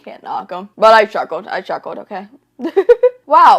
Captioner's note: laughs